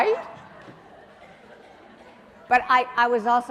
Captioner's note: audience laughing